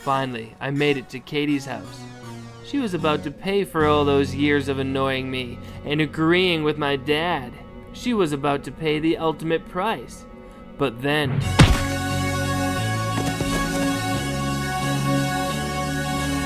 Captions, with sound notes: Finally, I made it to Katie's house. She was about to pay for all those years of annoying me, and agreeing with my dad. She was about to pay the ultimate price, but then. (brick thuds) (suspenseful music)